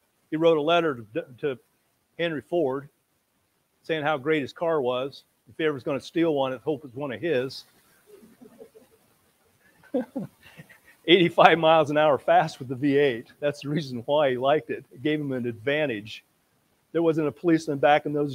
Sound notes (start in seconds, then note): 9.8 laughing